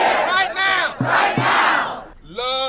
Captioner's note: crowd